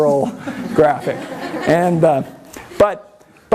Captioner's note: everyone laughs